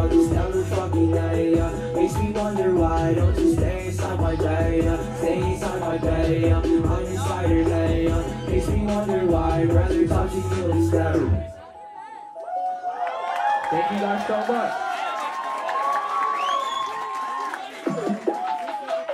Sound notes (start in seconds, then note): 12.9 crowd cheering